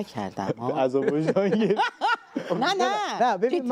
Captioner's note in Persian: خنده